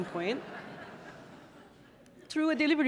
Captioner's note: audience laughing